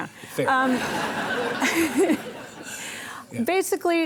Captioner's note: audience laughing